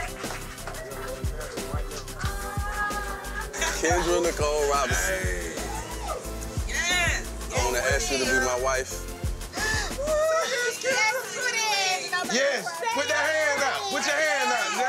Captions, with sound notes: Kendra Nicole Robinson... (guests shouting) I wanna ask you to be my wife. (sobbing) Yes, put that hand out! Put your hand out!